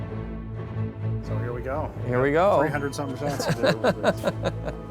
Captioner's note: laughs